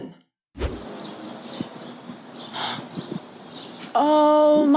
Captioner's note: birds tweeting... no airplane sounds though